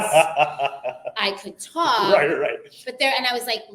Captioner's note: laughing